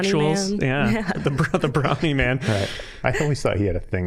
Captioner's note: laughing